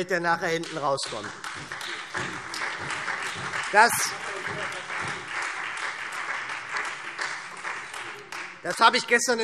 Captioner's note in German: Beifall SPD und Freie Demokraten